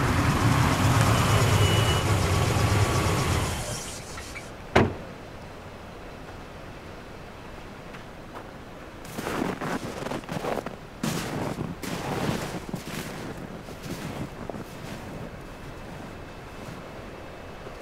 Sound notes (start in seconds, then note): 4.7 door shuts; 9.0 footsteps rustling